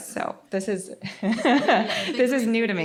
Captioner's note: chuckles